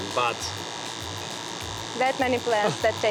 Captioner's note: wand whirrs